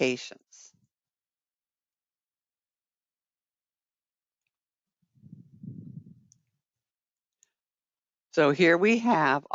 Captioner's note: 8 seconds pause